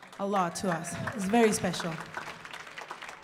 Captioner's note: audience applauding